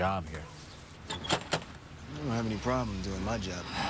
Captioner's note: knocks